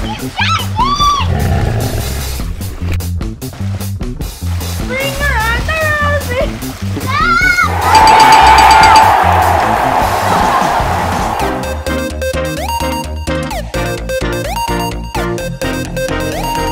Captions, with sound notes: [Grrr, grrr!] Ring around the rosy! [Ding, ding, ding, ding!] [Fun sports music]